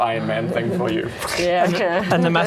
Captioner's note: Mark V Iron Man suit noises